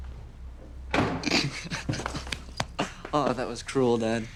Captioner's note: footsteps clomping; door clicks